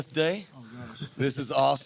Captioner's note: Pete Carroll laughing